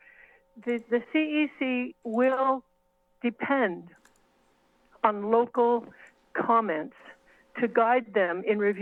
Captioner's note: mouse clicks